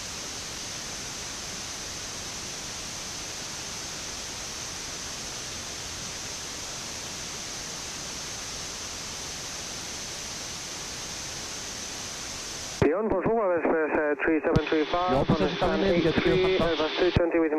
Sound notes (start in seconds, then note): 12.8 back ground aircraft calling tower